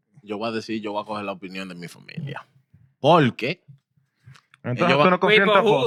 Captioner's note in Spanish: Hablando en idioma extranjero